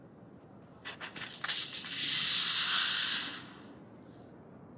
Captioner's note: rustling